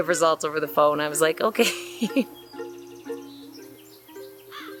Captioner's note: laugh